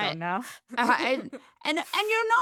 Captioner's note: laughing